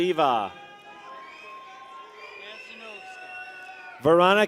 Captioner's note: people cheer